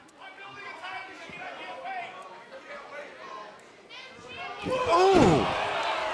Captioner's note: crowd chatter